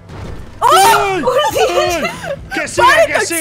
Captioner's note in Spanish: grita